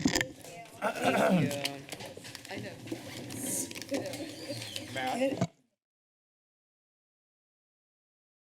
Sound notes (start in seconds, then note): 2.5 background conversations